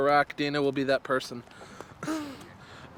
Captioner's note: laughing